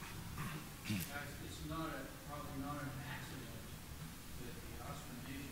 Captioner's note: man speaking off-microphone